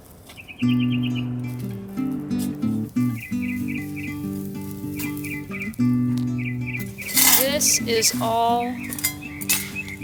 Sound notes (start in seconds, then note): 0.1 contemplative acoustic guitar; 4.6 birds chirping